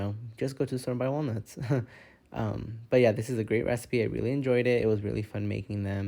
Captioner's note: slight laugh